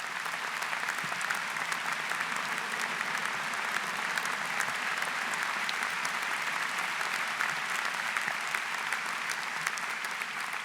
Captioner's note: applause